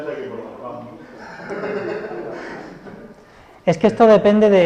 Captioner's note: laughs